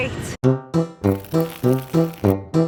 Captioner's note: urinating